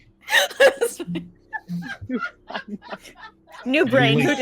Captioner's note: all laughing